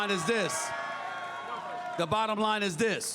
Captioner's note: crowd cheers